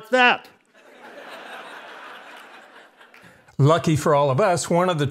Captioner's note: audience laughs